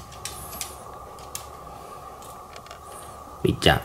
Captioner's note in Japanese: トミーの鼻息